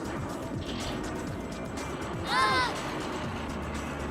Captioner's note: screams